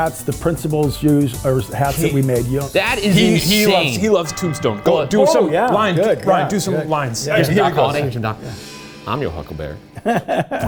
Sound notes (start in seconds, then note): 3.0 bell tolling; 9.9 laughing